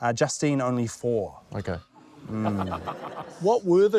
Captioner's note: chuckles